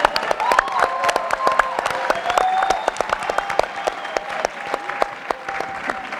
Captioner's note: audience cheering and applauding